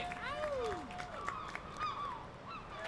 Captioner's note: sea gulls squawking; cheers and applause